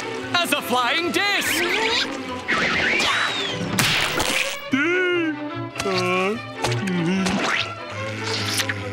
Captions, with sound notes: As a flying disc! [screaming] [groaning]